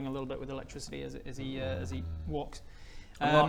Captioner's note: dubious noises